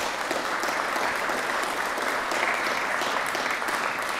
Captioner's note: applause